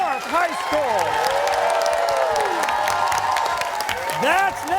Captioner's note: cheers and applause